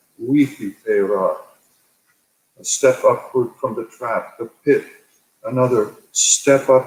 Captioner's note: speaking native bringage